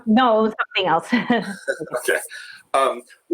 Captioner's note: laughing